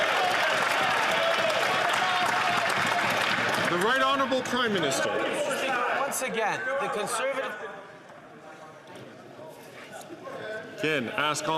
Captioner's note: cheers & Applause